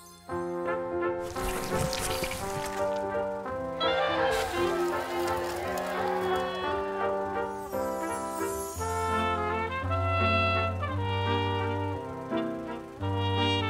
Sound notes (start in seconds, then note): 1.2 dramatic music playing; 3.8 students cheering